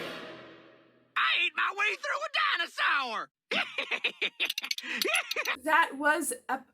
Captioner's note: cackles